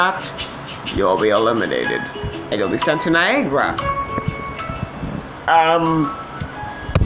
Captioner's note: in Deep Voice